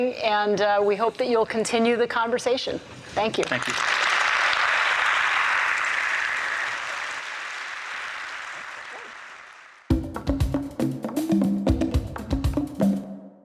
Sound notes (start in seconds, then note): 5.0 audience applauds; 9.8 percussive music